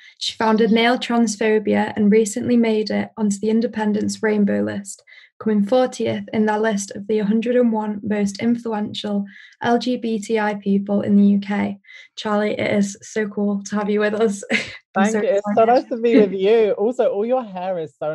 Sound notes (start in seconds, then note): 14.1 laughs